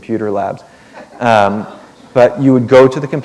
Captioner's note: chuckle